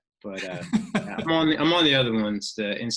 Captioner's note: laughs